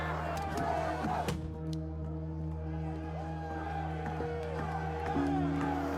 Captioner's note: crowd chanting, cheering